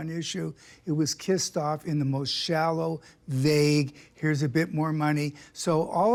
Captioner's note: none